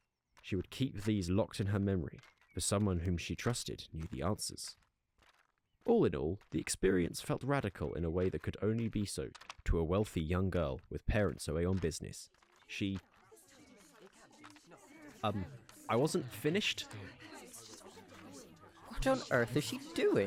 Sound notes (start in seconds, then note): 13.1 villagers murmur, continuous